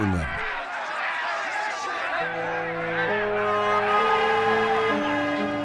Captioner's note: clamoring; horn honking